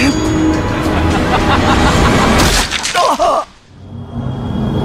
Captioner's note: gasping in pain